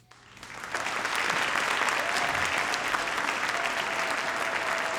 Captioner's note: audience applauding